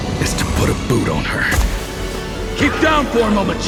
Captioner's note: bota batendo